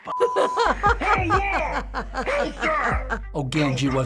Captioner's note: laughter